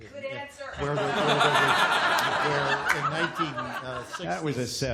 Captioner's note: laughter